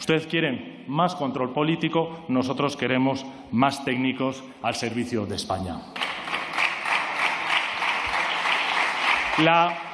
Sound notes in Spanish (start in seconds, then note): 6.0 Aplausos